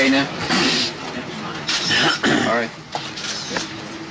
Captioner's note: coughing; clearing throat